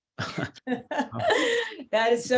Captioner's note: all laugh